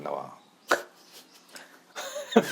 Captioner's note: chuckle